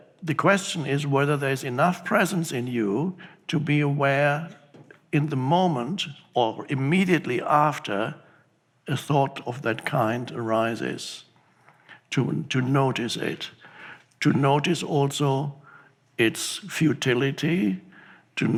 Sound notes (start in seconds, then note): none